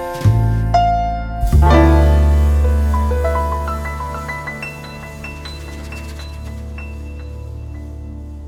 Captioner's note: fluid statics